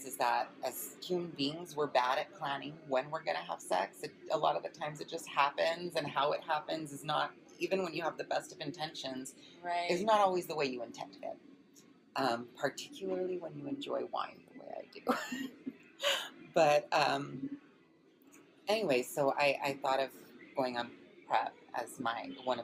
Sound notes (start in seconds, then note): 15.0 laughs